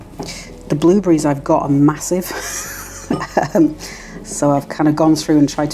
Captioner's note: laugh